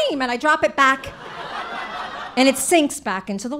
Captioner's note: audience laughing